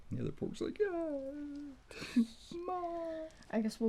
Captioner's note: crying